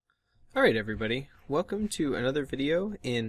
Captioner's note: voiceover